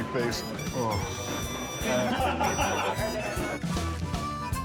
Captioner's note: he and John laugh